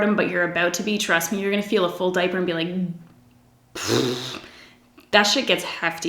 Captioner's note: blows a raspberry